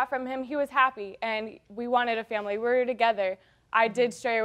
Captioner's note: none